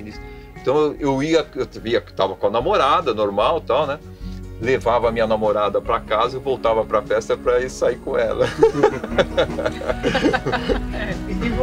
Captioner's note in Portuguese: Risos